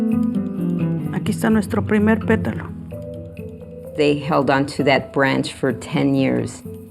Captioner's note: speaking spanish